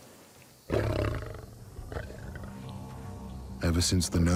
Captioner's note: lion snarls